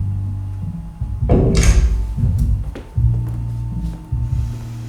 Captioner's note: door